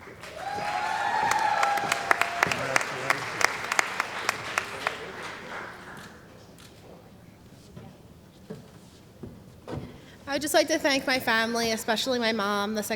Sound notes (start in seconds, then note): 0.0 cheering & Applause